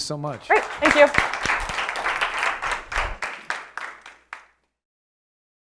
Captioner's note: applause